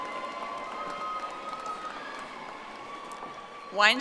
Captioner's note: audience applauding